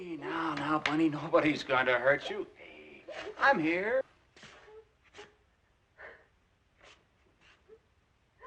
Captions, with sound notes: Hey, now. Now, Bunny, nobody's going to hurt you. Hey, I’m here. [ Crying ]